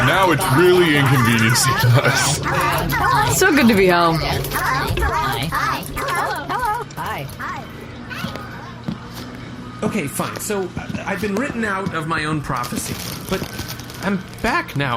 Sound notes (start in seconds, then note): 5.7 chanting